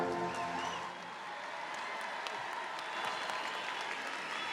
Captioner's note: audience cheering